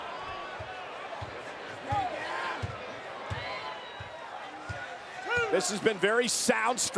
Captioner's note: applause